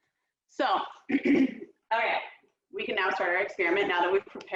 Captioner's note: clears throat